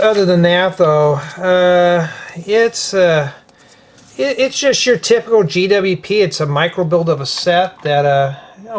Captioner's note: sighs